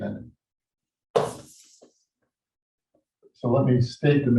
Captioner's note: chalkboard taps loudly